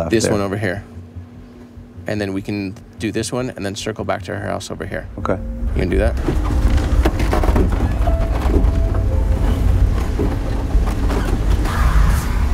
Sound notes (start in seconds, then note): 6.4 somber music; 6.4 tires rumbling